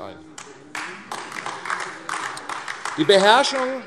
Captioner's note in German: Beifall AfD